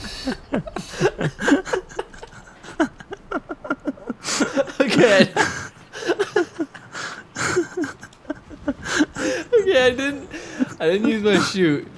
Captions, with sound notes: (Still laughing) Okay Okay I didn't... I didn't use my chute